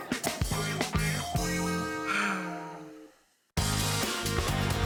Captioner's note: sigh; upbeat music